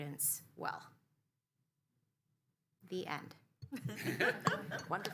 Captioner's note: laughter